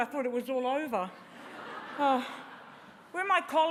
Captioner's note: laughter